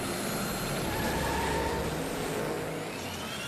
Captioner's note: engines revving; tires screeching